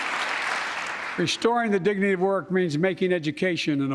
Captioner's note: applause